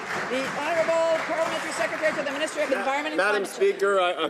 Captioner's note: some Applause